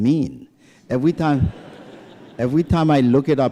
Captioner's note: laughter